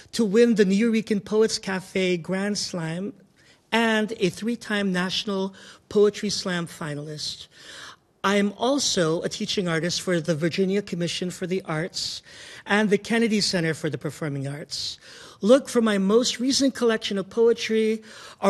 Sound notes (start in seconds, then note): none